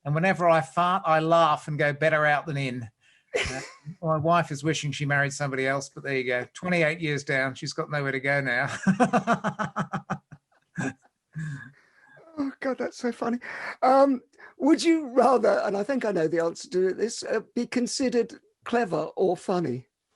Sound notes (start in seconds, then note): 3.3 laughs; 8.7 both laugh